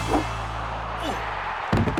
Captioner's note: grunting; crowd cheering; monkey thuds on floor